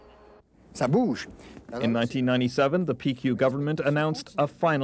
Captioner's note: man speaking French